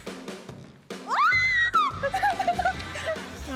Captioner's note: shrieks